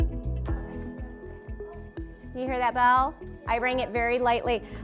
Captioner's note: ding